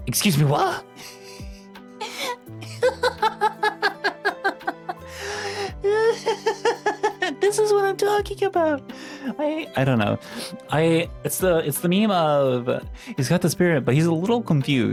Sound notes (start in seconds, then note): 2.6 laughs